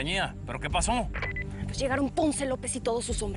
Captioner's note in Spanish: Bip